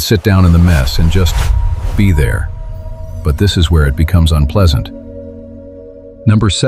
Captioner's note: in a low voice